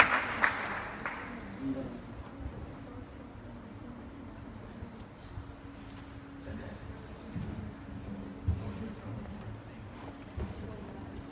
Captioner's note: clapping; various students chattering